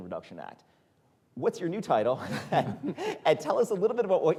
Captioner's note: chuckles